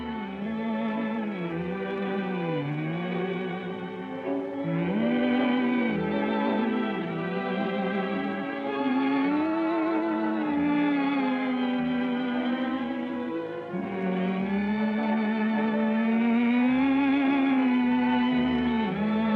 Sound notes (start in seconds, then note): 13.8 humming continues